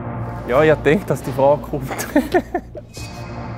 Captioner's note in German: Lacht